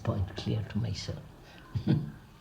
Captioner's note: laughs